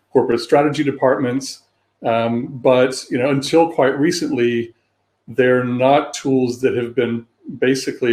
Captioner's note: erm